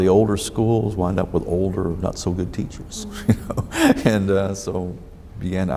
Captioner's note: laughs